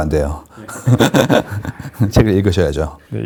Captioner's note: laughter